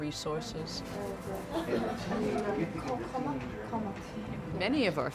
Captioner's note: students chatting indistinctly